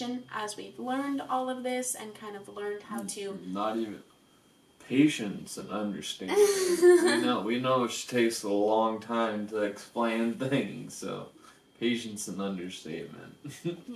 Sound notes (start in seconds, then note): 6.3 laughs